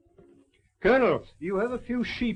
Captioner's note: none